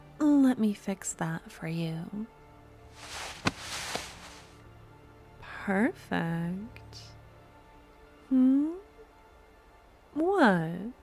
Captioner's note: fabric noise